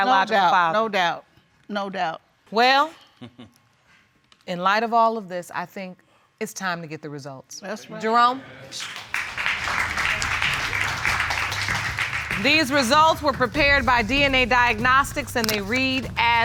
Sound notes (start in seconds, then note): 3.2 chuckling; 8.7 applause